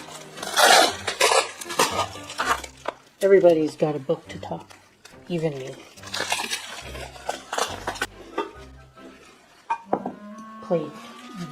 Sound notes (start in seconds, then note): 0.0 sound of tape being torn off of bubble wrap; 5.4 sound of tape being torn off of bubble wrap; 9.5 thud